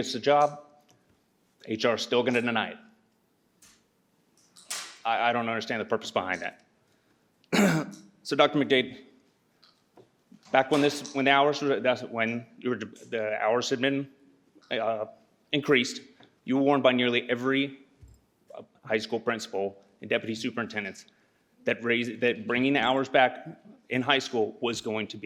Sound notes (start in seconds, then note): 7.5 clears throat